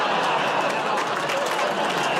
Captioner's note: audience groans